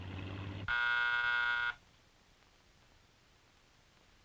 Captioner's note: doorbell buzzing